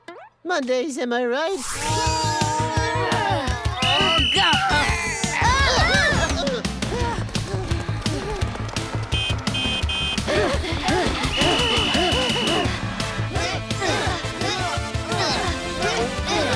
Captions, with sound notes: Mondays, am I right? [grunting] [whistling] [grunting, groaning] [panting] [honking] [panting] [whistling] [grunting]